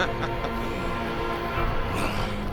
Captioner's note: growling